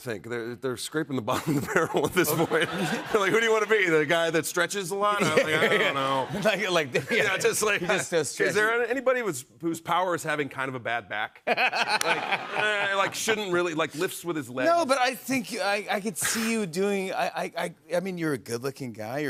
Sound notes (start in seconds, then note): 11.4 laughter